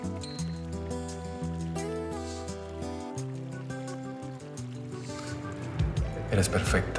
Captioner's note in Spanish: Sonido del agua del jacuzzi